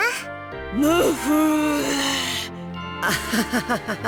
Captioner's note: resigned groan; awkward laugh